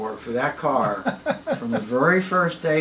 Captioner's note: laughs